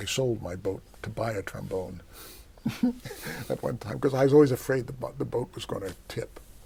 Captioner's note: laughs